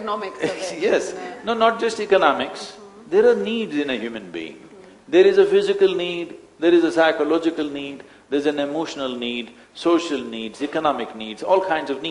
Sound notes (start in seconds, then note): 0.4 laughs